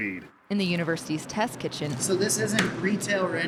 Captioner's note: voiceover